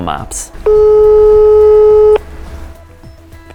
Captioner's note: dial tone